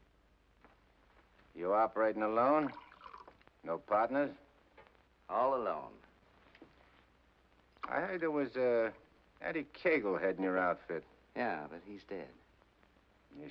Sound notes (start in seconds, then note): 2.4 liquid pours